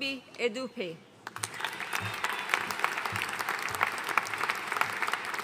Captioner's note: audience applauding